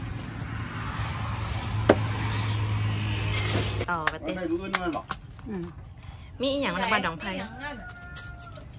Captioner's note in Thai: ปรบมือ